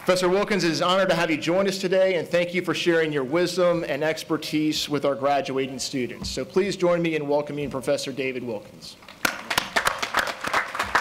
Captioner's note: applause